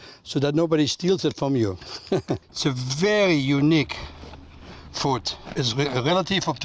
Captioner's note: laughs